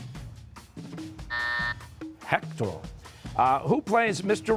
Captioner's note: buzzer